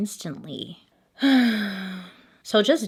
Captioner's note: sighs